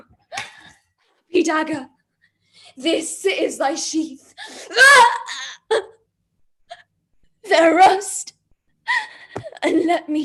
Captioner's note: screams